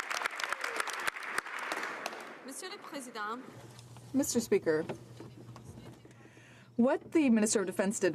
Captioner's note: some Applause